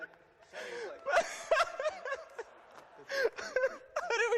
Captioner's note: laughter